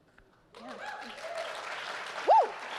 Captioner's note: audience clapping